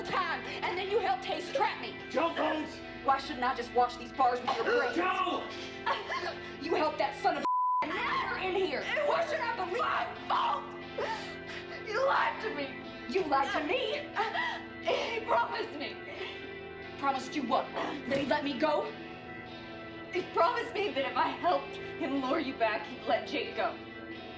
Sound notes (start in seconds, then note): 5.4 Rowena gasping